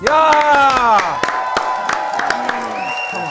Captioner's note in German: Jubel, Applaus